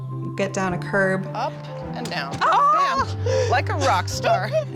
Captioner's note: laughs happily